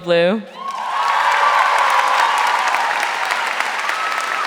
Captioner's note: audience cheering